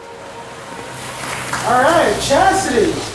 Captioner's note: water splashing